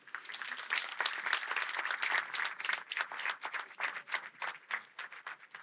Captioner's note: applause